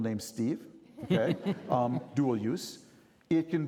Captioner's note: chuckling